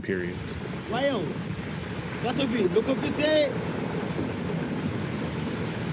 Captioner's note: speaking in foreign language